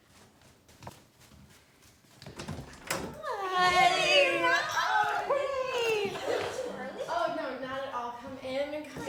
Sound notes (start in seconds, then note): 2.2 front door opens